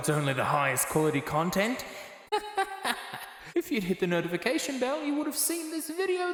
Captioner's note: laugh